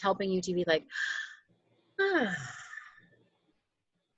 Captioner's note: sigh